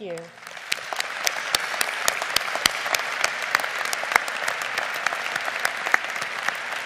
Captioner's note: audience applauding